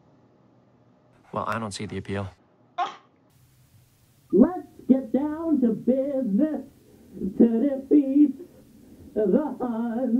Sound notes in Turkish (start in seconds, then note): 2.6 havlamak; 4.2 şarkı söylüyor